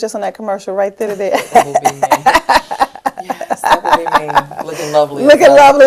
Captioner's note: laughter